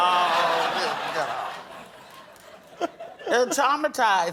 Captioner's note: laughter